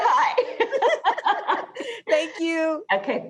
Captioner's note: both laughing